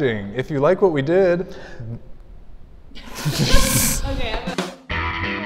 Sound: laughing; rock music

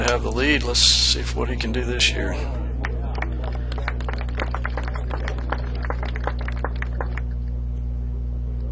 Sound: clapping

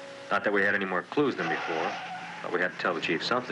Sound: tires screeching

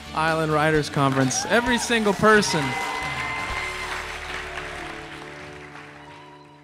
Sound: cheers and applause

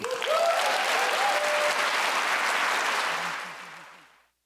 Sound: cheers and applause

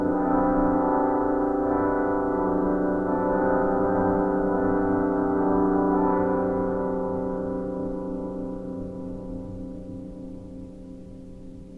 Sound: church bell ringing

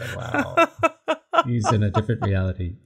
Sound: laughs

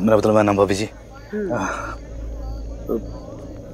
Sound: Guri sighs

